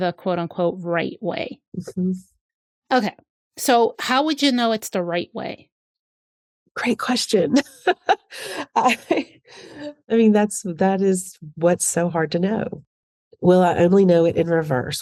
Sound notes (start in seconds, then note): 7.5 laughs